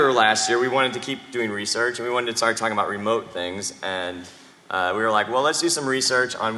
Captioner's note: off microphone